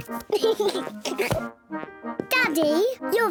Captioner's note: oinks; giggling